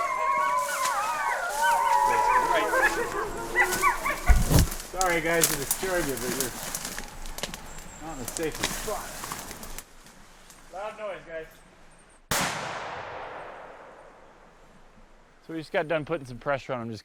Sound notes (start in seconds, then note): 0.0 howling continues; 12.3 gun shot